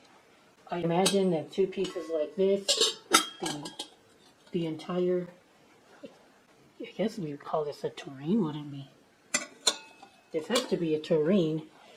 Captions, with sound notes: I imagine that two pieces like this...(sound of lid clanking on the piece) the, the entire... I guess we call this a tureen, wouldn't we? (Clank) This has to be a tureen.